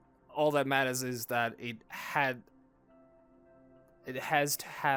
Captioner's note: stumbles over own words